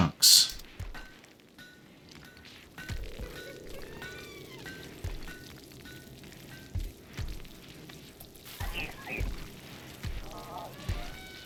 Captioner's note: silence